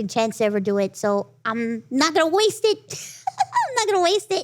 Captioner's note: laughs